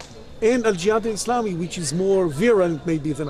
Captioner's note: speaking in Arabic